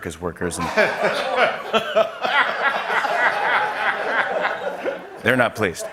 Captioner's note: laughter